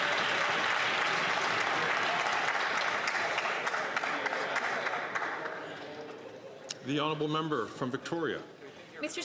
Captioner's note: some Applause